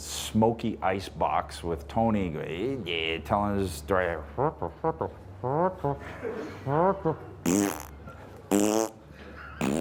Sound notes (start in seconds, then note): 2.7 Edge grunts